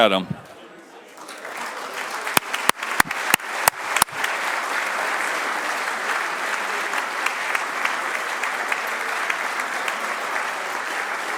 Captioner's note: applause